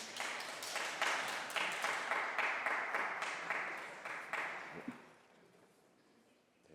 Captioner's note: applause